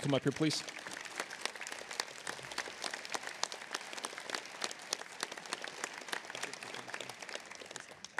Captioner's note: applause